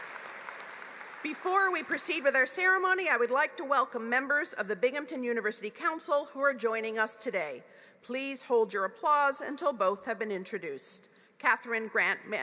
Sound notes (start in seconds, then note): 0.0 applause